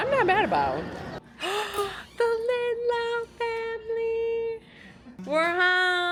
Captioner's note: gasps